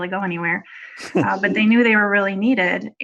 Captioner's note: laughs